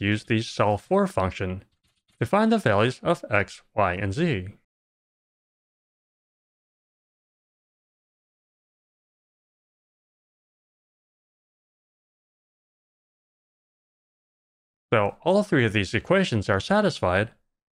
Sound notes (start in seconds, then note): none